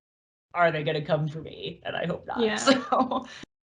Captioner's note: laughs